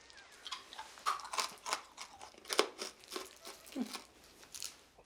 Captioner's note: candy crunching